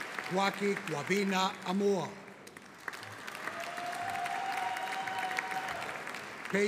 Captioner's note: audience applauding; audience cheering